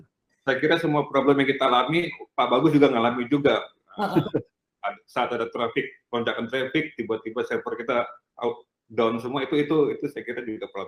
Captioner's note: non-english speech